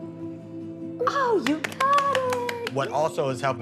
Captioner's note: clapping